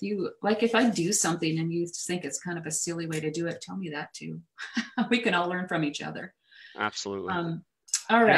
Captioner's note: laughs